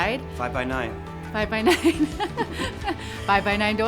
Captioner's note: laughs